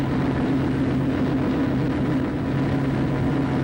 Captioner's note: speaks foreign language; engine roars